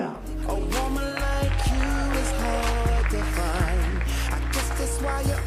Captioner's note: applause